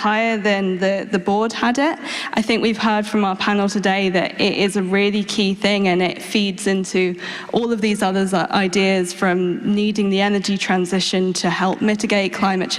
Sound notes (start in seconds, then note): none